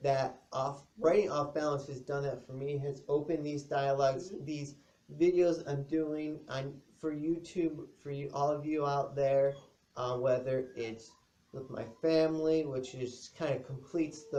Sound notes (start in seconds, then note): 9.5 dog whines more